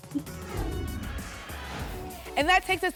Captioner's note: whoosh